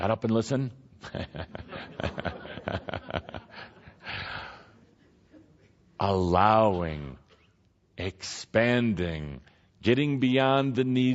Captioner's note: laughter from audience